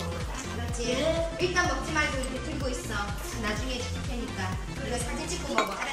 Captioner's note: speaking foreign language